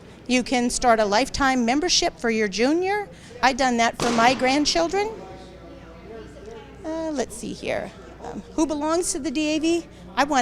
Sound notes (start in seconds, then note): 5.7 attendees chattering